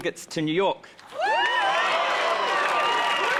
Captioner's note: crowd cheering